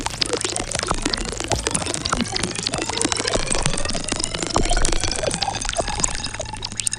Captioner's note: frantic chirping